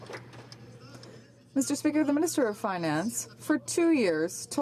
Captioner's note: some Applause